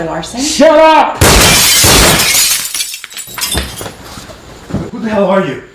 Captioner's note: gunshots firing; glass shattering